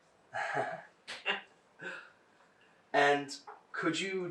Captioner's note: laughing